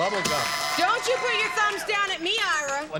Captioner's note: buzzer